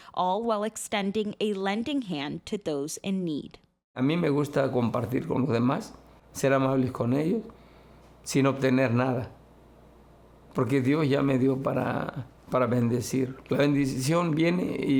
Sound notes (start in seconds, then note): 3.9 speaking Spanish